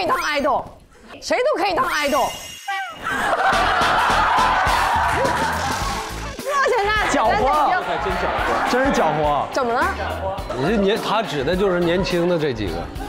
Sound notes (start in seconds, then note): 3.0 haHaHaHaHa